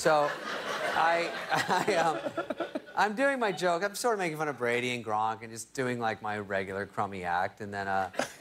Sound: laughter

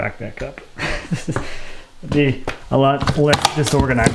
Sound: laughs

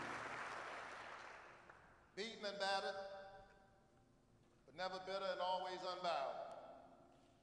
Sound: applause

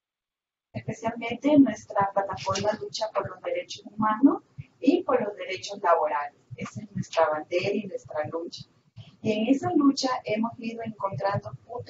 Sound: Spanish

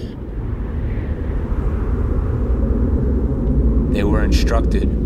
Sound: wind whooshing

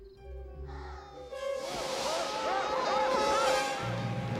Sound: yelling

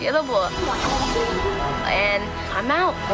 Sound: BB-8 whirring

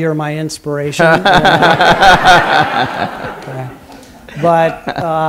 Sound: laughter

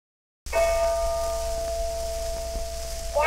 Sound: bell tolls

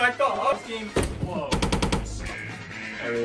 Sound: slapslapslapslapslap

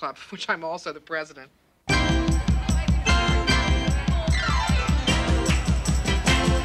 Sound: students chattering; upbeat music

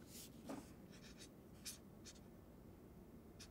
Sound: marker rasps

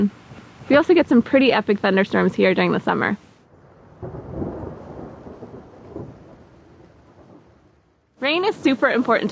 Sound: thunder sound

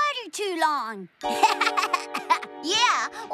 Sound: giggles

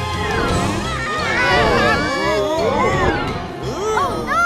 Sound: screaming

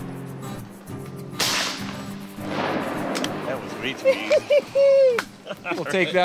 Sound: gunshots; laughing

